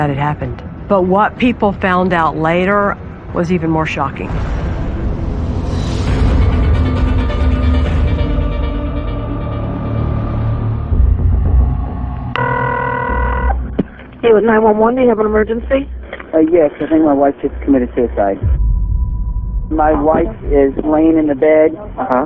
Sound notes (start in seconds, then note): 12.3 calling tone ringing